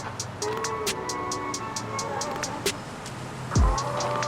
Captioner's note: car approaching